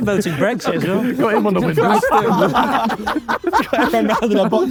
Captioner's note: group laughing